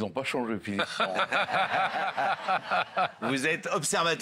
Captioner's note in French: rires